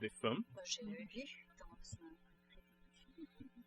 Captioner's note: speaking french